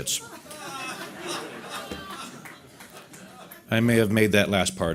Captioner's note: audience laughter